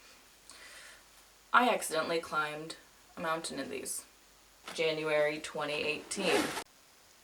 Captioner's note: zipper zips